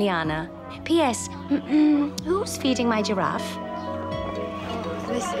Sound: clears throat

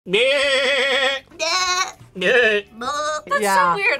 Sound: bleats

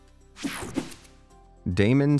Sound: air whooshing

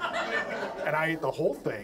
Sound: audience laughs

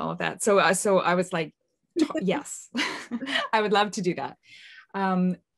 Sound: laughs

